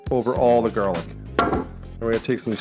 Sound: bang

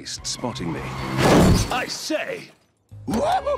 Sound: tires screeching, loud bang

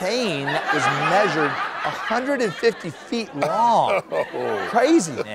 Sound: laughter

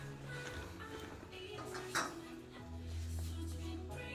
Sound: noise - kitchen work

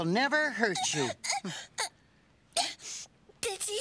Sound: sobbing

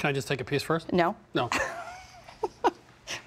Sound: laughs

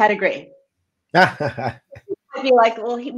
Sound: laughs

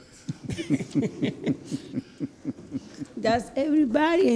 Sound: laughing

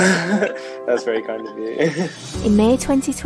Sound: laughs

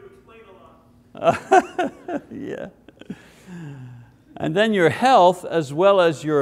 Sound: laughs

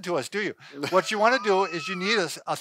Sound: chuckles

